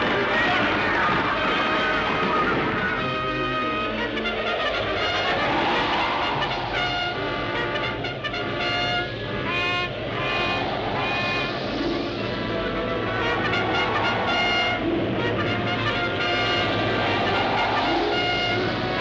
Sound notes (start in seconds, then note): 2.9 trumpets blaring; 4.1 wind whistling